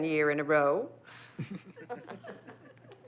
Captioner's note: laughter